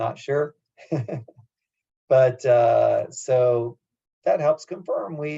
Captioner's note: laugh